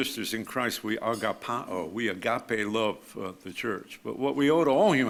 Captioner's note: speaks foreign language